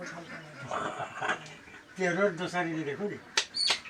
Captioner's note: speaking in local dialect